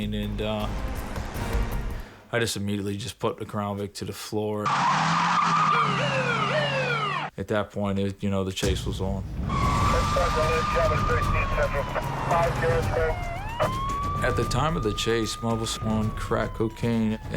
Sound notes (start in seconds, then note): 4.6 sirens